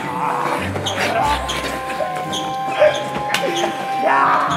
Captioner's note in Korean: 새어 나오는 웃음소리